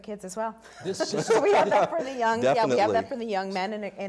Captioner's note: laughter